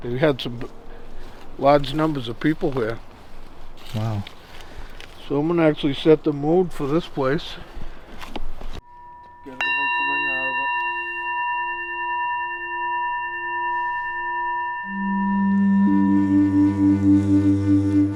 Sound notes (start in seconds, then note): 9.7 bowl rings; 15.0 mysterious music